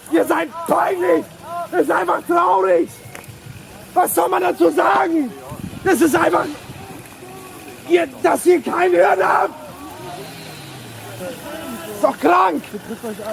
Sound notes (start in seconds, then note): 6.2 guy yelling "It's crazy that you don't understand!"